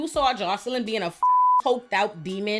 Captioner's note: beep